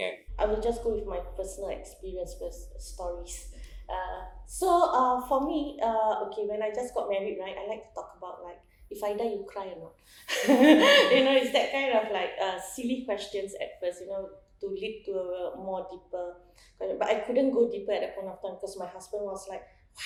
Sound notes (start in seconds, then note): 10.3 laughs